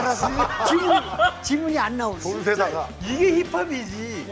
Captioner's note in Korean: ㅎㅎㅎㅎㅎㅎㅎㅎㅎㅎㅎ